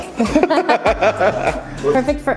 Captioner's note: laughing